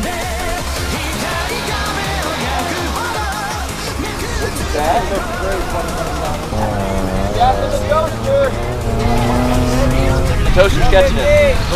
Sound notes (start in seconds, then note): 0.1 foreign music playing; 7.1 engine roaring